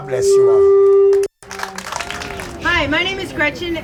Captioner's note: people applauding